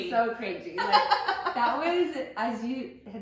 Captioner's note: laughs